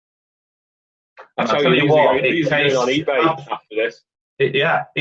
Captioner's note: overlapping chatter